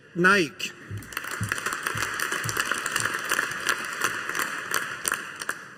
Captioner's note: audience applauding